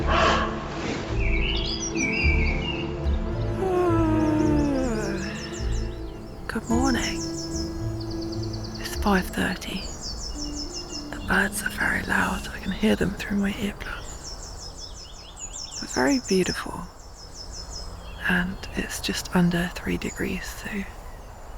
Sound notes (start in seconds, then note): 3.4 yawn